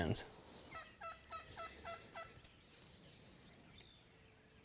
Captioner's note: turkey calling